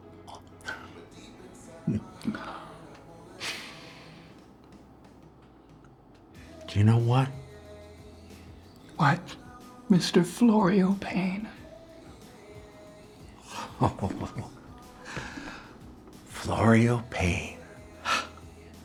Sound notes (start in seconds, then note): 0.1 Jesse exhales in surprise; 1.7 Florio chuckles; 3.3 Florio inhales; 13.2 Florio giggles